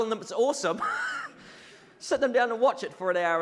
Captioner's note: audience laughs